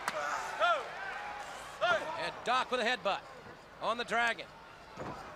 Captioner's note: crowd chatter